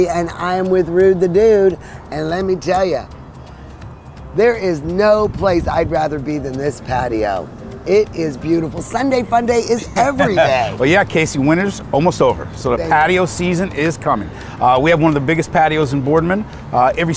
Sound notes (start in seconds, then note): 9.8 laughs